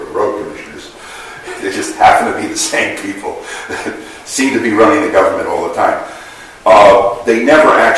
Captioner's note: laughs